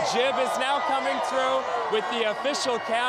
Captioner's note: cheering